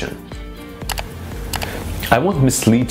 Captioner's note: mouse clicks